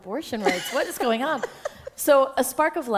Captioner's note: chuckle